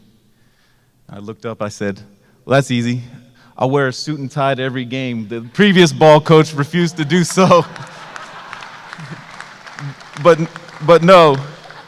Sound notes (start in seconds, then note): 7.1 applause